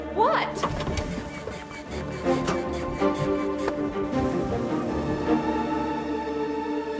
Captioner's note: suspenseful music; rocking horse squeaking